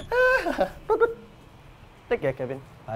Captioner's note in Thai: หัวเราะ